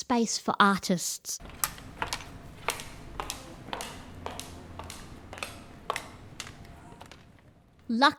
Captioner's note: tapping of cane on the ground and footsteps